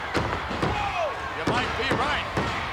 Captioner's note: audience chanting